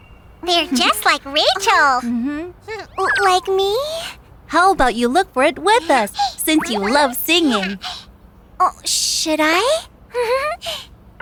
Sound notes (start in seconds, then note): 2.7 shy grunt; 10.0 giggles